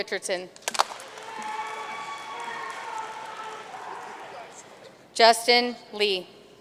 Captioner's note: audience cheering and applauding